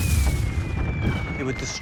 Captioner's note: artillery shells exploding